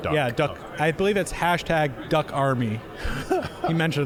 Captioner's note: laughing